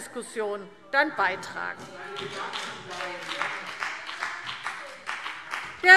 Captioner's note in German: Beifall BÜNDNIS 90/DIE GRÜNEN